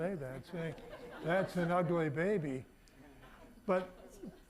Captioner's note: audience laughing